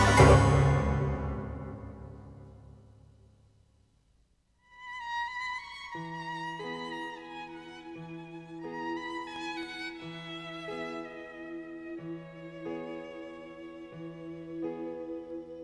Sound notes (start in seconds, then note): none